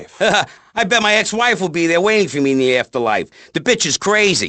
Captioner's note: chuckles